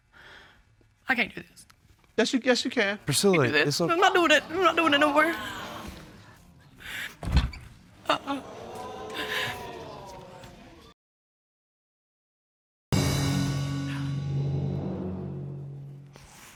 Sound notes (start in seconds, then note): 3.2 cries